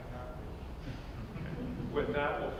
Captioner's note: laugter